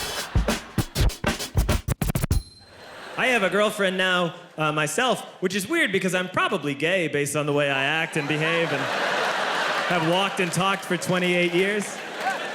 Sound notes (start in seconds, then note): 0.0 hip hop music; 8.0 audience laughing